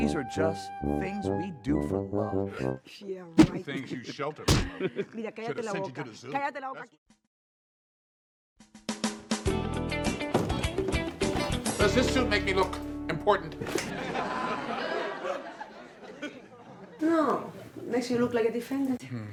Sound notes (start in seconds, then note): 5.5 quiet arguing; 10.6 soft music; 13.7 audience laughs